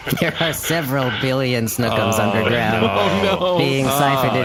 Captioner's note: laugh crying